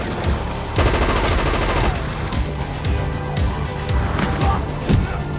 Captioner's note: machine gun firing